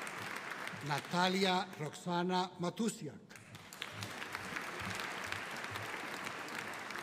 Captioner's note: audience applauding